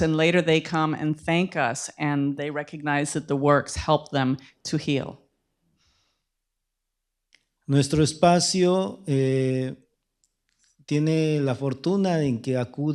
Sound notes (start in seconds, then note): 9.0 speaking spanish